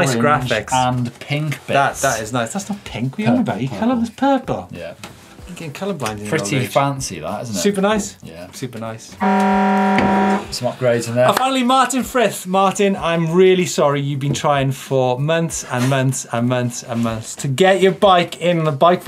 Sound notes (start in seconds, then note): 9.2 horn blaring